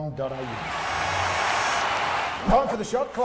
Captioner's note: stadium audience cheering